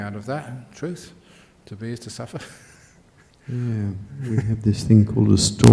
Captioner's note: chuckles